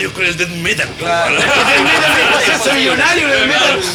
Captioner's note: laughs